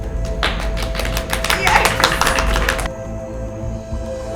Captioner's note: clapping